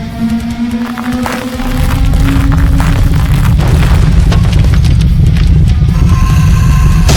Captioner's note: tentacle beast blares; ground rumbling; rocks clattering; scorpion beast shrieks